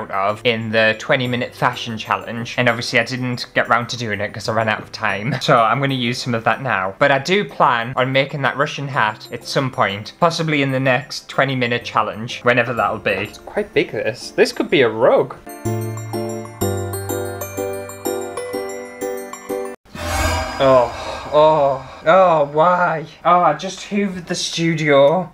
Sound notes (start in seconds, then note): 15.4 christmas Music; 20.0 alarm